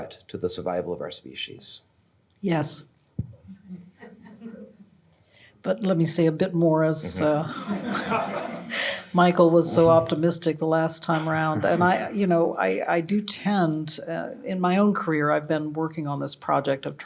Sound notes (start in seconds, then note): 7.1 audience laughing